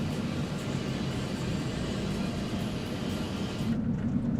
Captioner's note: car rattles